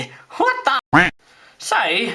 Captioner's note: quack